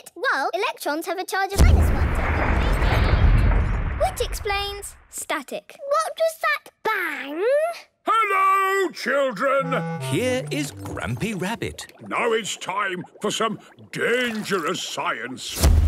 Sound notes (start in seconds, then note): 1.6 distant explosion